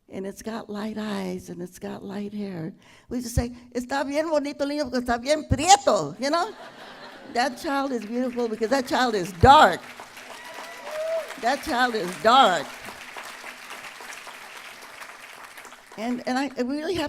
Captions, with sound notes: and it's got light eyes and it's got light hair. We have to say -- [ Speaking Spanish ] "That child is beautiful because that child is dark." [ Applause ] That child is dark. [ Applause ]